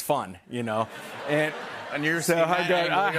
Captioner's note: laughter